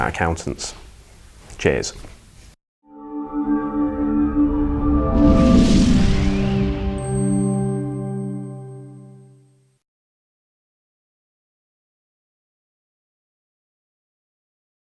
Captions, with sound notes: about accountants! Cheers. (melodic sting) (bell dinging)